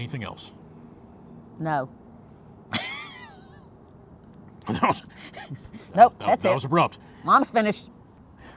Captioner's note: laughs